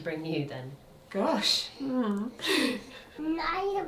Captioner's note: chuckles